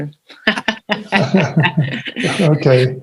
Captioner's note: people laughing